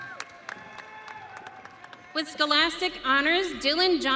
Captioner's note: audience cheering